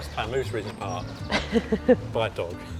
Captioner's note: laughing